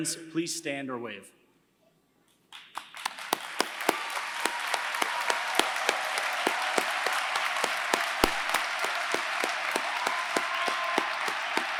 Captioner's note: applause